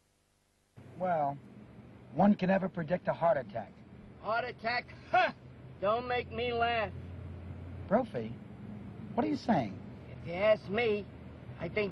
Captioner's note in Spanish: English dialogue